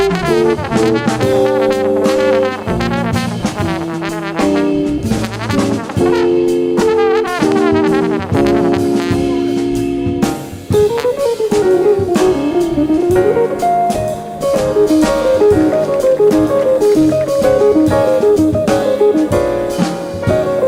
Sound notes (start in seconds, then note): 0.2 jazz music continues; 15.8 audience applauding; 17.3 jazz music continues